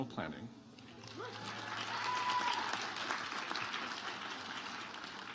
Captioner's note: audience applauds